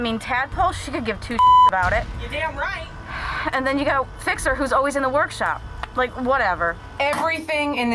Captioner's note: sigh